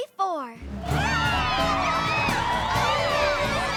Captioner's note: all cheering